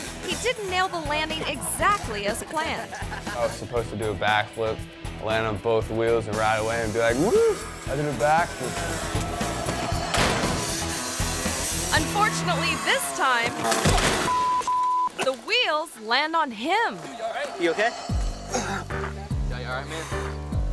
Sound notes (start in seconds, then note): 10.0 dirt bike thuds; 14.2 beep